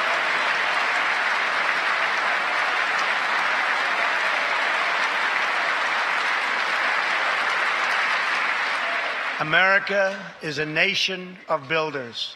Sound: applause

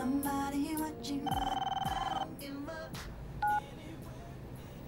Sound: phone ringing

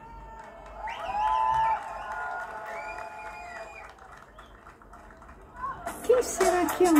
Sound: applause

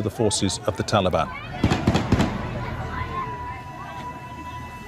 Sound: gunshots

